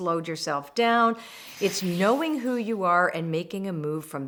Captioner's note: loud whooshing